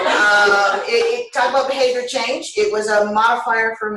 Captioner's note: laughter